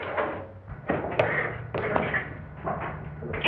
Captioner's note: hissing, screeching